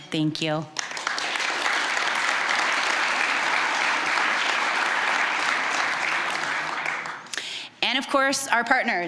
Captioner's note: applause